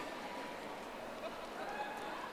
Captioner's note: audience applauding